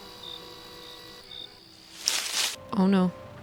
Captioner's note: running in leaves